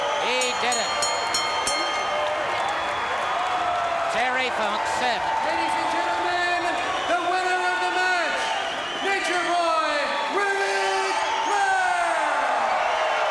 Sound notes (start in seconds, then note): 2.7 applause